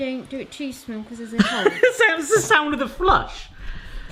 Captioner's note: laughing